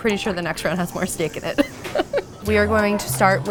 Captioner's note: laughs